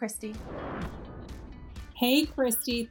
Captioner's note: air whooshes; soft upbeat music